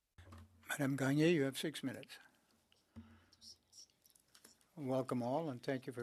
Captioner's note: speaking French